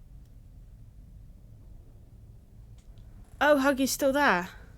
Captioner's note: none